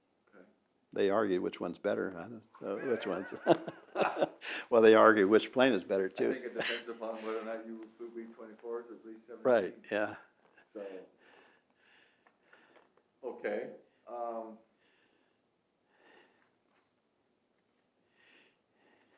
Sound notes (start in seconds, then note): 2.6 laughs; 7.3 laughs